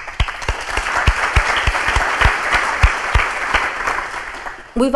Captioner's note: crowd applauding